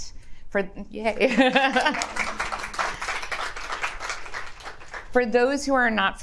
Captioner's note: attendees applauds